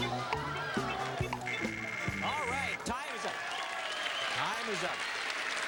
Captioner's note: buzzer buzzes